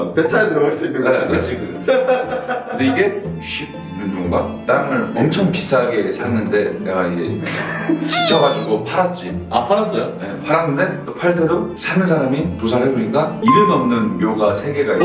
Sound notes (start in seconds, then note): 7.4 hahaha